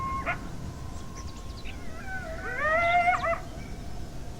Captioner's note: coyotes howling